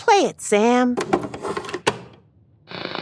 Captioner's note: video cassette clicks